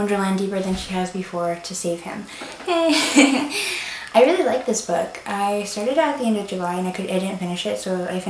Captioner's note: laughs